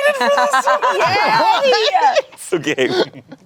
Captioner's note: everyone laughs